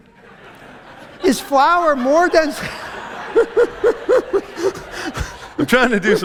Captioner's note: laughing